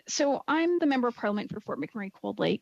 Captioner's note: speaking French